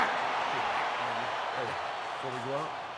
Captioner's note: crowd cheering